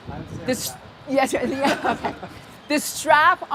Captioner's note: laughter